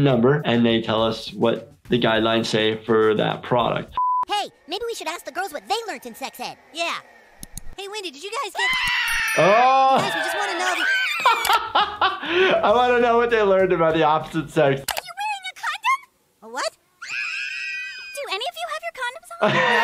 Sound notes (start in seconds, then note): 3.9 background tonal beeping; 8.5 girls all scream; 11.2 laughing; 11.2 more screaming; 17.0 girls scream